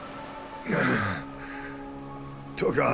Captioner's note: groaning